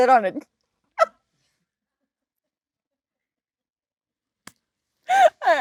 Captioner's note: Jennifer and Lisa laughing